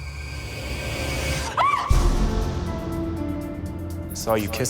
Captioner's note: eerie music; woman yelps